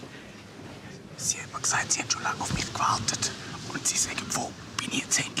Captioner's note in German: Flüsternd